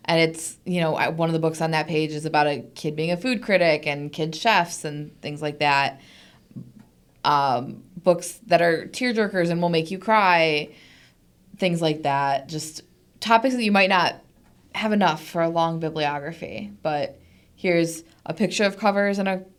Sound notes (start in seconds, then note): none